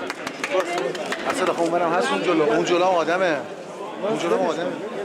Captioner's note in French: Arabic spoken language